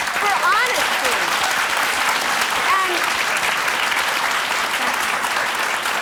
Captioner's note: audience applause